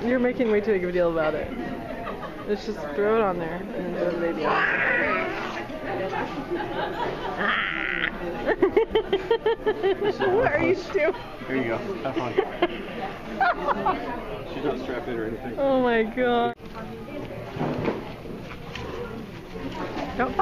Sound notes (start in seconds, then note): 6.4 laughing